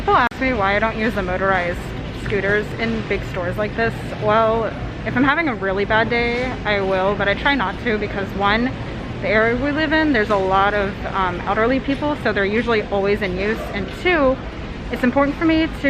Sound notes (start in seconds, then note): none